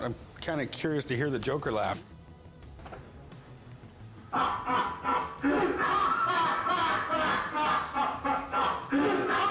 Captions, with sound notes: I'm kind of curious to hear the Joker laugh. [joker laughs menacingly]